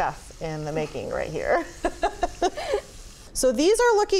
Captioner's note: both laughing